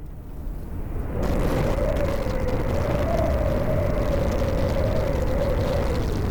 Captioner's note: strong wind blowing